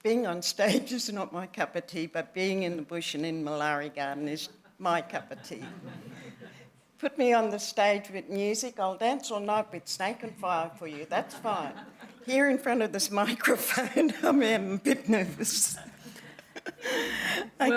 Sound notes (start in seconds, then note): 5.3 laughter; 11.0 laughter; 15.7 laughs